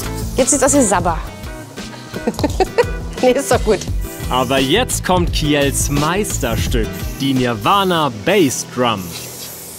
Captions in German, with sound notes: Jetzt sieht's aus wie Sabber. (Lachen) Nee, ist doch gut. Aber jetzt kommt Kjells Meisterstück: die Nirvana Bassdrum.